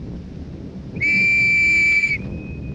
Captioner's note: blowing whistle